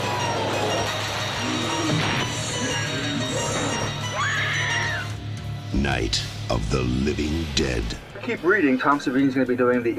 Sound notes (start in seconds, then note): 4.1 screams